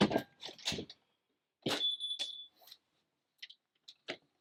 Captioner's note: door opening